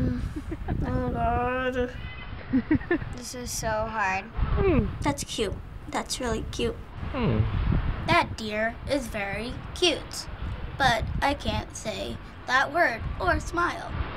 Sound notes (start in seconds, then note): 0.0 groaning softly